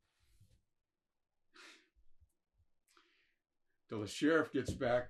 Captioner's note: sighs